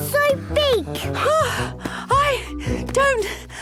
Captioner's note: panting